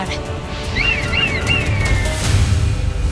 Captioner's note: squawking